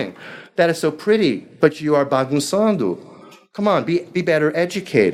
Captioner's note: speaking foreign language